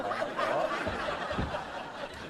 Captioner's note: laughing